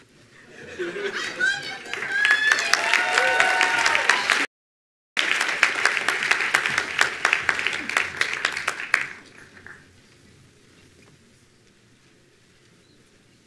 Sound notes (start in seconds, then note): 3.5 attendees applauding